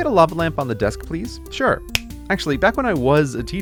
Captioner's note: fingers snap